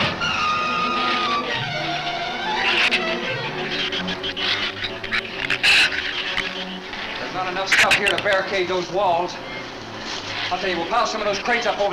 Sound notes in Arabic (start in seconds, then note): 0.1 تستمر الموسيقى المتوترة; 5.3 ثرثرة الزبابة